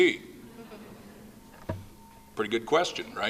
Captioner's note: laughing